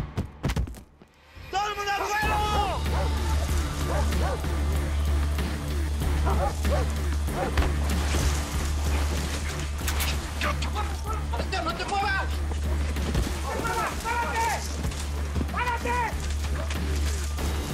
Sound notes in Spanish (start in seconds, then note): 6.0 Ladridos